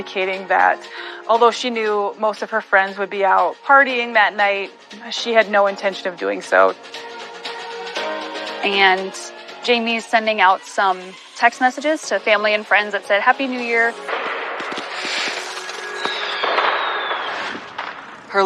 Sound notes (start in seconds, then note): 16.0 firirewororksks boooo